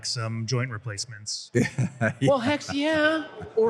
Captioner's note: laughter